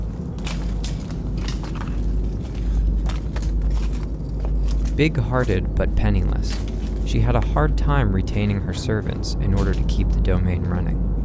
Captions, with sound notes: (debris clattering) Big hearted but penniless, she had a hard time retaining her servants in order to keep the domain running.